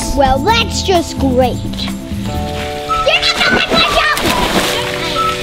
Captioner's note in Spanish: con sarcasmo; salpicando agua